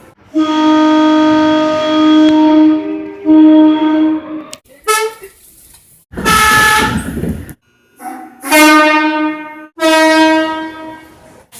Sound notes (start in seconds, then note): 3.4 air Horn; 8.0 air Horn